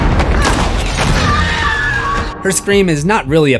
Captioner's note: screams